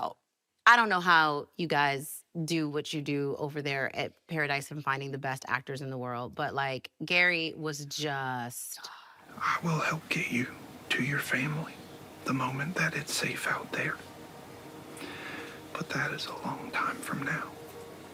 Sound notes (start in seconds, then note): none